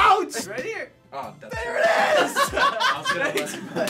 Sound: laughter

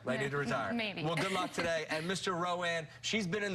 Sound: laughter

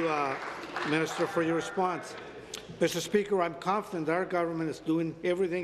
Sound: applause

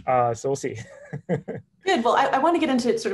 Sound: chuckling

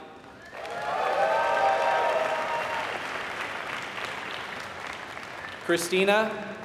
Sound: applause

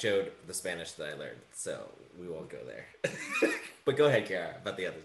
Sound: laughs

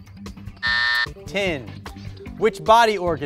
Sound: timer buzzes

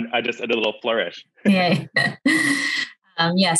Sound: chuckles

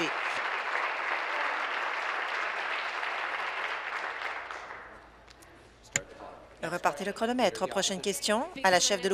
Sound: applause

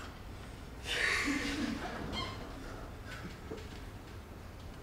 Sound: audience chuckles

